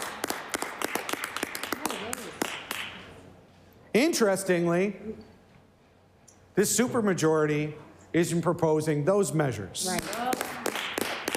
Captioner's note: some Applause